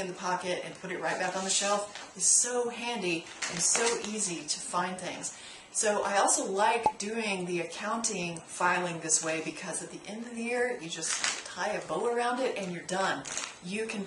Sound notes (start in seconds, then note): 6.8 pop